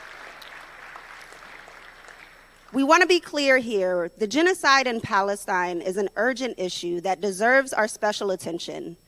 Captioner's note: applause